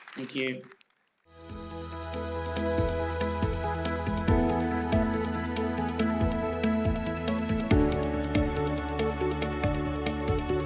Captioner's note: applause